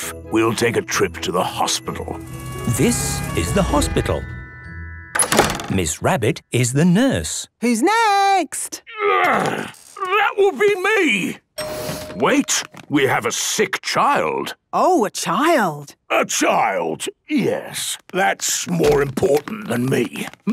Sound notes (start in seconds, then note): 2.8 siren sounding; 11.6 door dings open